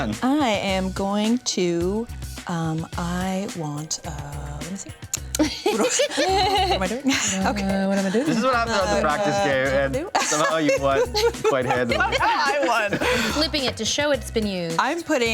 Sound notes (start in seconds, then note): 5.0 double clicks tongue; 5.4 everyone laughs